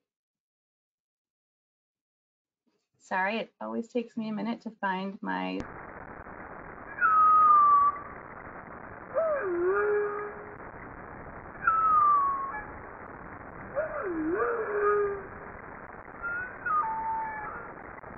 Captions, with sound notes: Sorry, it always takes me a minute to find my... (whale singing)